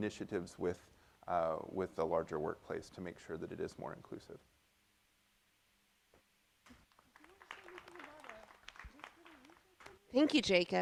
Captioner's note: applause from the audience